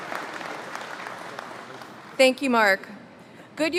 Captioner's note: applause